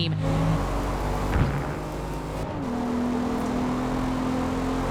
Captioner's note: engines roaring